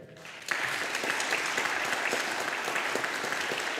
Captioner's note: audience applauding